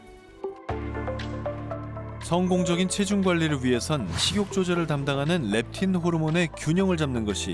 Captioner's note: voiceover